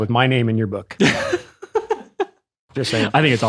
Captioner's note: laughing